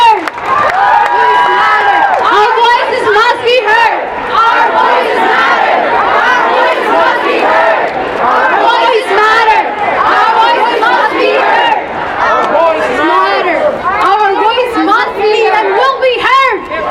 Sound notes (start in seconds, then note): 0.8 chanting with audience